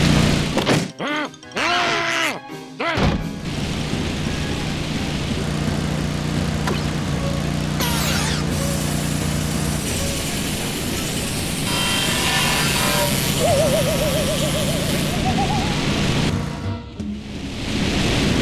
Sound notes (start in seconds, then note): 0.1 grunts; 1.2 duck squeaks